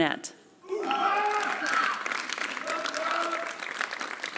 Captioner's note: applause